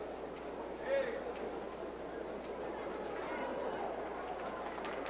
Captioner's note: crowd member exclaims